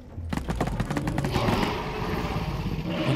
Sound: Loud and silenced Flechette shooting

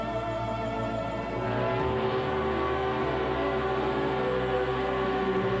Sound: ship horn bellowing

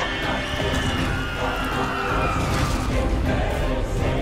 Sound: screaming

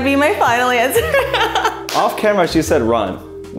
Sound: laughing

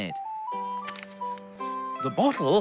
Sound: page Rustles

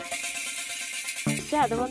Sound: speaking Arabic

